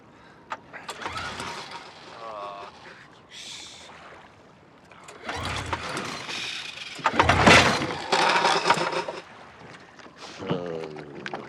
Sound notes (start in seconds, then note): 0.8 motor sputtering; 10.4 grumbling